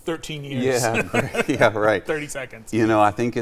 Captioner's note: everybody laughs